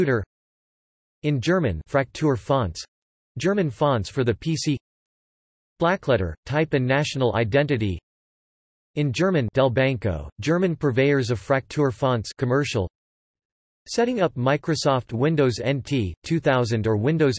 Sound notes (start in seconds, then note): 0.1 in German; 8.0 in German